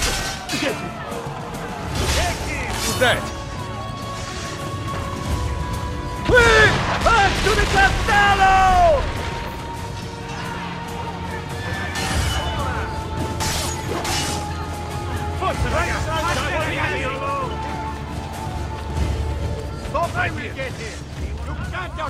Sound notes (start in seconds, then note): 6.3 explosions; 11.8 figthing sounds